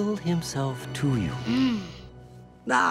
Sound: groaning

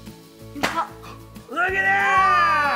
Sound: pop

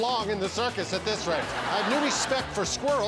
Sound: laughter

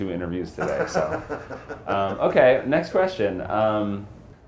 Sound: laughs

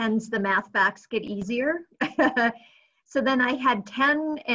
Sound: laughs

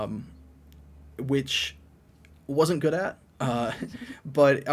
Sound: all chuckles

